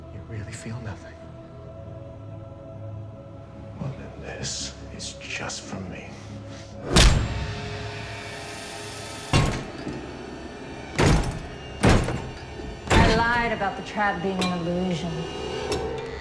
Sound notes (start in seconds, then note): 2.5 suspenseful music; 6.9 fist thuds; 8.2 menacing music; 10.6 door lock clanging